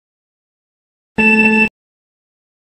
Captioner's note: timer beeps